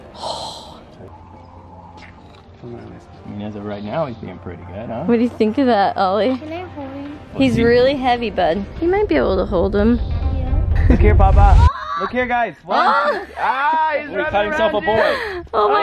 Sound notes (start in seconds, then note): 12.9 shriek